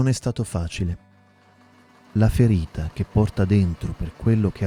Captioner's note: sewing machine